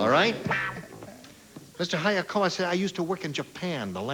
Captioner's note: normal voice; asian accent